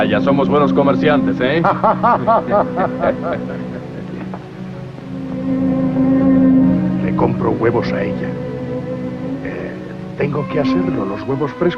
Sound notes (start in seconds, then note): 1.5 Harvey and Boyd laughing; 7.0 whispering